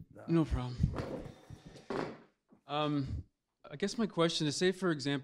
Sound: voiceover

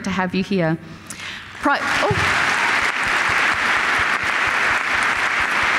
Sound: applause

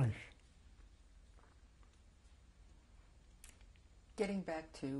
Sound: pauses for 3 seconds

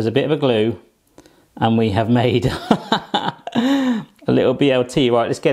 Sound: laughs

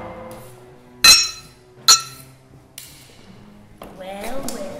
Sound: clanging

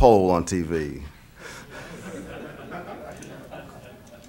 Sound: laughter

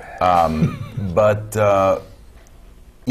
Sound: chuckle

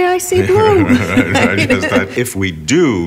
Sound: laughing

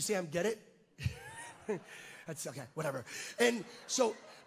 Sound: chuckles

